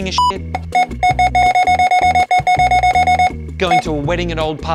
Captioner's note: scanner beeping repeatedly